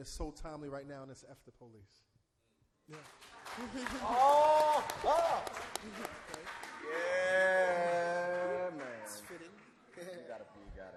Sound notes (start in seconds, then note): 2.8 applause